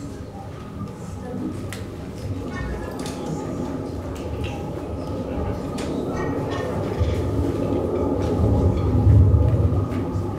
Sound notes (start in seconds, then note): 3.8 atmospheric white noise